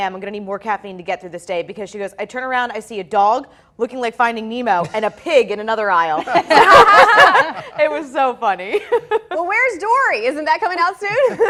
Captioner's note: laughter